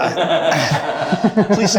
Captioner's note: laughing